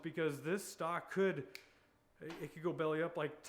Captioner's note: snapping